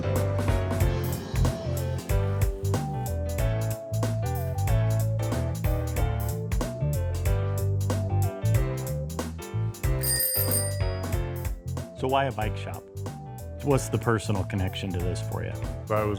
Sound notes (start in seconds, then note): 0.3 playful upbeat music; 10.0 bell ringing